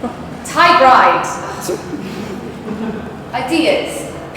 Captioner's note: audience laughs